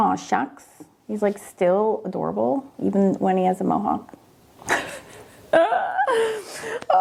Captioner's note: laughs